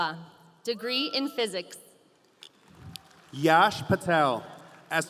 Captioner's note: audience applauding